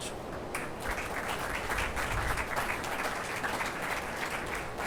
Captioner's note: attendees applauding